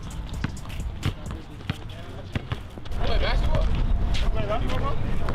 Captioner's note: balls bouncing